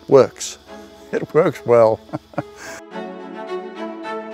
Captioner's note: laughing